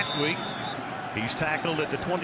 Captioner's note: whistle blowing